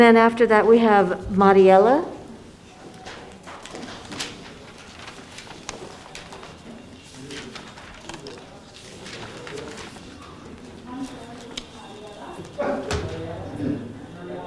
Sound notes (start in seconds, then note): 3.6 paper flipping; 12.4 murmuring